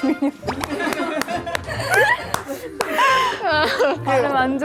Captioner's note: sigh